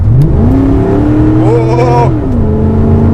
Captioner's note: funny noises